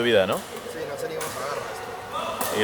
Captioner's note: in spanish